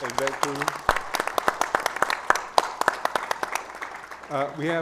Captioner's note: audience applauds